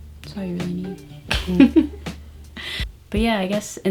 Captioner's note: laughing